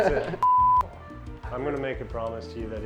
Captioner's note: beep